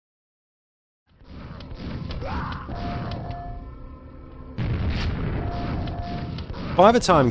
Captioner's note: quake sounds